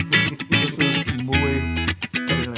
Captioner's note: laugh